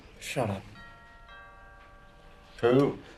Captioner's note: DOORBELL RlNGlNG